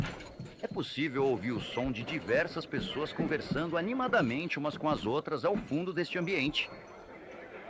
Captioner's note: people chattering